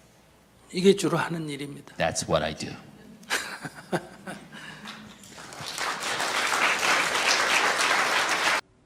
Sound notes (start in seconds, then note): 3.2 laughter; 4.6 audience Applaud